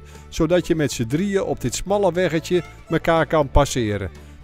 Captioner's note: voiceover